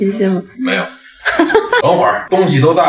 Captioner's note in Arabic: هاهاها